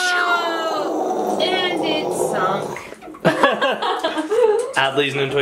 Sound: laughs

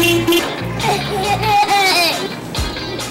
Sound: laughter

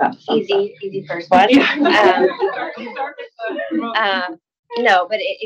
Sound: attendees laugh

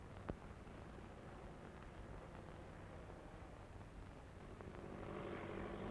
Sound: airplane engine rumbling

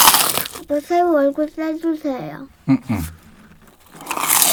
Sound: surprised

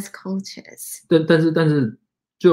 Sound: speaks mandarin

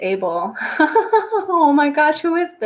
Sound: laughing

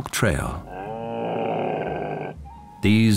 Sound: camel grumbles

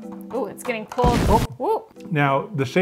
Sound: explosion

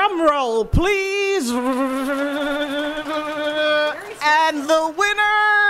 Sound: imitating drum roll

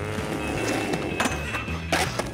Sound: growls

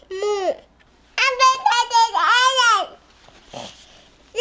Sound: baby gibberish

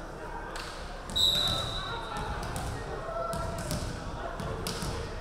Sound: referee whistling

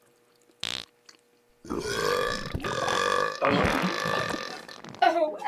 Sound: Bull's stomach turns as he farts and belches profusely

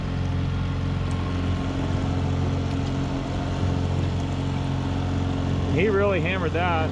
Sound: boat enigne running

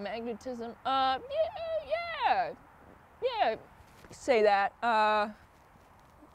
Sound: stammers

